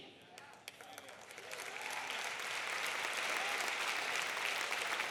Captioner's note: audience applauding